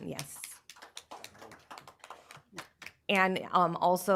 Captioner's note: applause